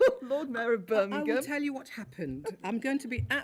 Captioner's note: laughs